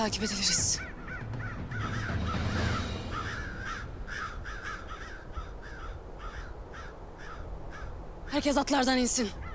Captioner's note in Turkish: Kuş sesleri